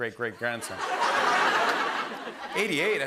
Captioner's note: laughter